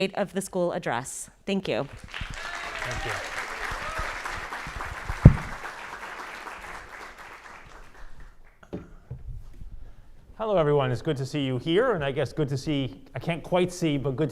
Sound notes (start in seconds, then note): 1.9 audience applauding